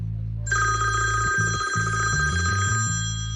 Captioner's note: cellphone rings